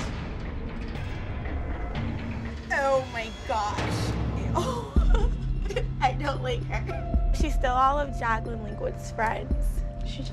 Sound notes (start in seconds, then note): 0.1 dramatic music; 4.5 laughing